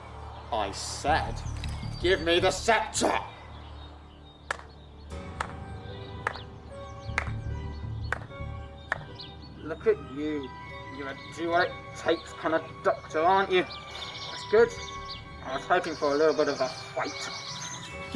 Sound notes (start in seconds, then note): 5.1 distant clapping